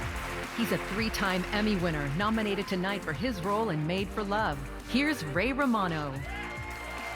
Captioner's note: cheers and applause